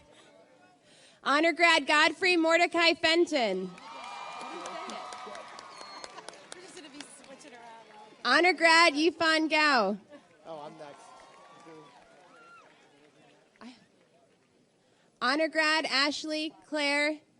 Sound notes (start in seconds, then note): 3.6 audience cheers and applauds; 6.3 laughing